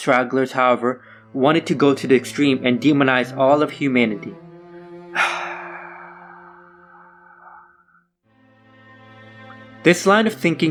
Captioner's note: A long sigh